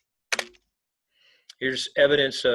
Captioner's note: keyboard clicking